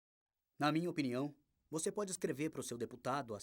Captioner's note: voiceover